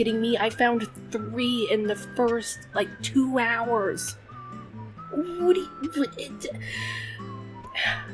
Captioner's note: stutters